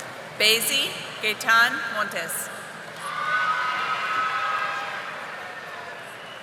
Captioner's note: audience applauding